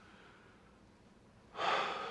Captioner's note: sighs